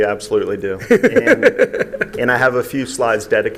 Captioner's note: laughing